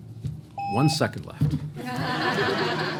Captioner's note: laughter